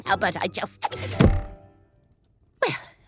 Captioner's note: knife whooshes